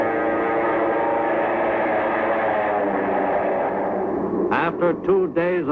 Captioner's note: airplane engine roaring